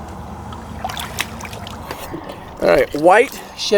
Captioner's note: water splashing